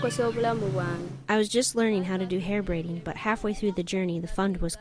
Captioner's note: through translator